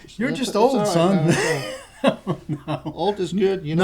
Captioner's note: laughter